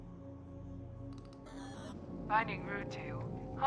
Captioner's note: glitch effect